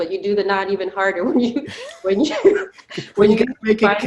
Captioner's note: both laughing